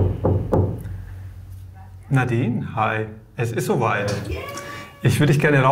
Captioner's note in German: Klopfen